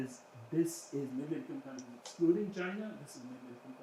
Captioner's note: speaking faintly